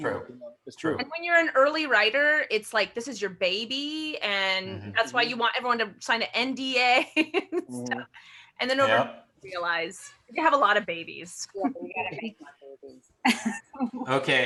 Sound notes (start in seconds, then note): 7.3 laughs